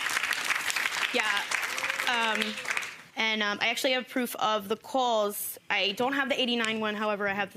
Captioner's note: audience applauds